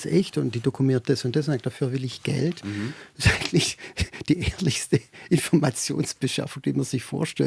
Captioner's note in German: gelächter